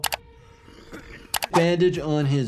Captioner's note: Simon coughing; mouse clicks